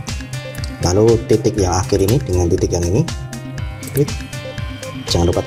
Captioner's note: click